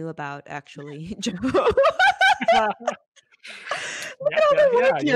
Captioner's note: laughing